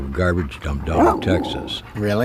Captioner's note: dog barking